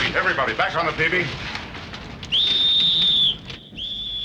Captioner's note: whistle blows